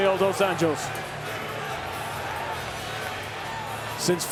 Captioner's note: crowd cheering